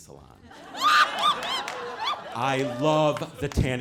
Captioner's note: audience laughing